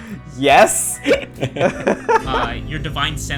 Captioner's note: laughter